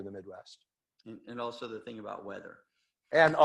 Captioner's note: laughs